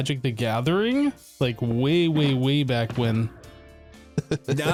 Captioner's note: chuckles; chuckling intensifies